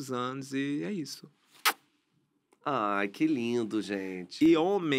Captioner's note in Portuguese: beijo